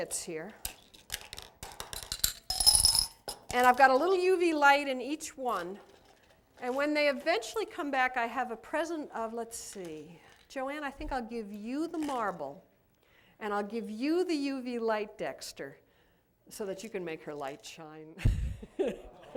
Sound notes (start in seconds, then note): 1.8 beads jingling; 18.2 laughter